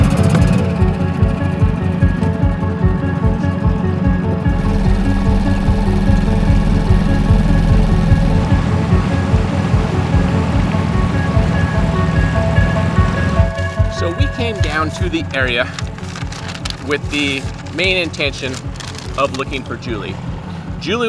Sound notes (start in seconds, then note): 0.1 engine rumbles; 9.3 water splashing